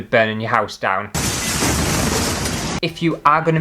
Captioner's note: explosion!